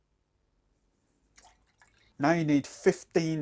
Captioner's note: liquid pouring